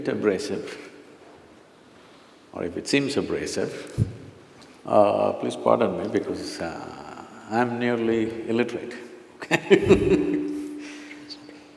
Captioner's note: laughs